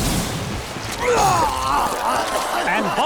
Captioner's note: vomiting